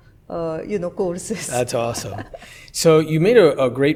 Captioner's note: laughs